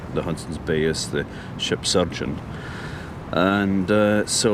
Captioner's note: sound of birds